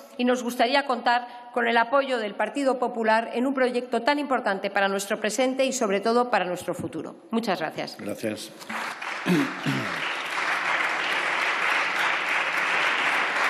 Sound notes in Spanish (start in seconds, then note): 8.6 Aplausos